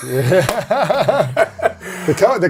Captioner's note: laughs